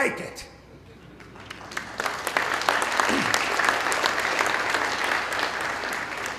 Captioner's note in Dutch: Applaus